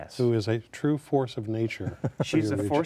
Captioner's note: laughs